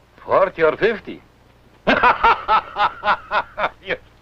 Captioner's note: laughs